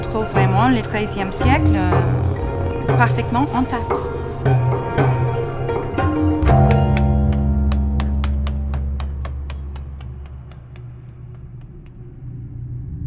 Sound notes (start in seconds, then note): 6.2 hammering